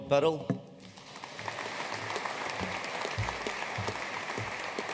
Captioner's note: audience applauding